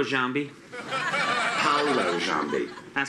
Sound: audience laughs

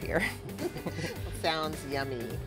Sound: laughing

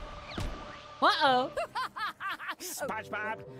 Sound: laughing

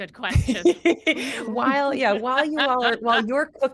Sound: laughter

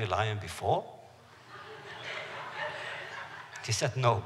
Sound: laughter

